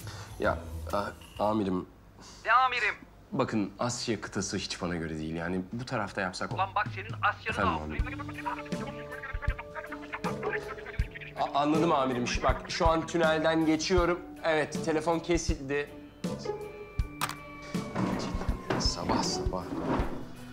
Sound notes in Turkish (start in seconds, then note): 2.2 Yüksel ses; 6.5 Yüksel ses